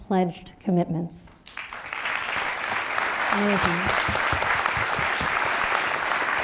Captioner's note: applause